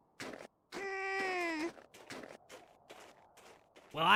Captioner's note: sad Child Noises